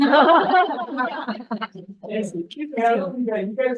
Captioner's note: group laughs